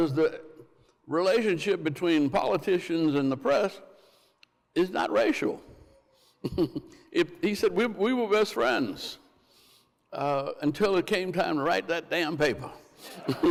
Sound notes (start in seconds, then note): 6.4 chuckles